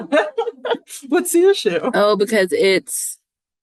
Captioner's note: people laughing